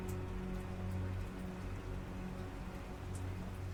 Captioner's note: sporadic rain drops